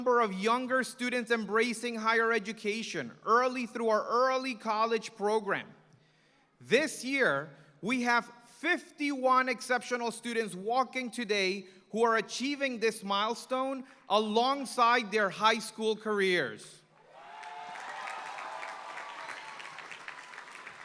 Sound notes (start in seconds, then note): 17.0 applause